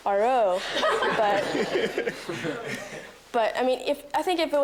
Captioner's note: students laughing